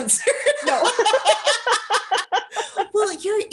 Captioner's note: laughter